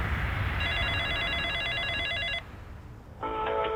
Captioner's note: phone ringing